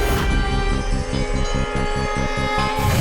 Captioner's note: conch blows